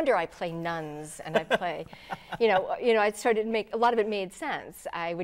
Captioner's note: laughing